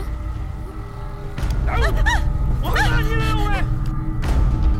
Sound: Malay Language

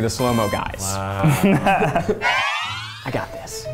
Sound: laughing

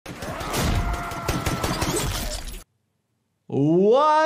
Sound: gunshots firing; man screaming

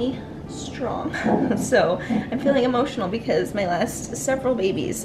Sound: chuckles

